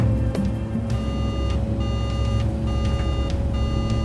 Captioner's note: beeping